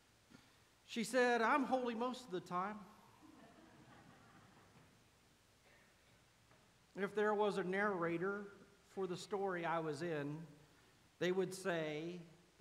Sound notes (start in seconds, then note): 3.2 laughter